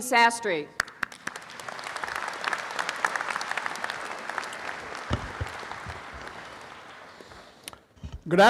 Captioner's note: audience applauding